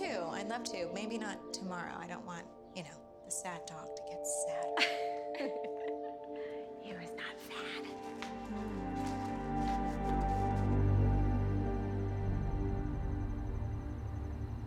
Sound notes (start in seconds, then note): 4.6 Sharon laughs; 10.5 crickets chirping